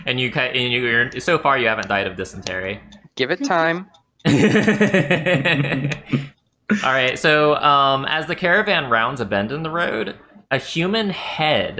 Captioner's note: laughter